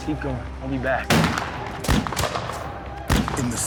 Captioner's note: gunfire